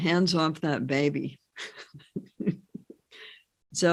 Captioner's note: laughs